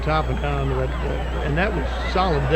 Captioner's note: audience cheering; audience clapping